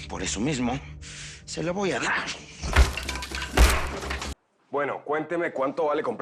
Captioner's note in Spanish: Estruendo